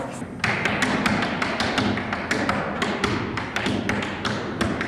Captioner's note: tap dancing echos